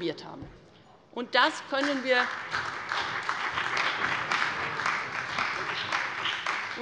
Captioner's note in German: Beifall bei der CDU und dem BÜNDNIS 90/DIE GRÜNEN